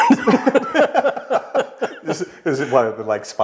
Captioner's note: laughing